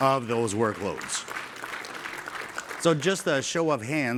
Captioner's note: applause